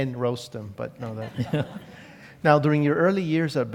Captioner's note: laugh